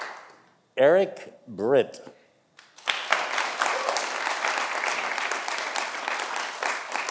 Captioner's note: audience applauding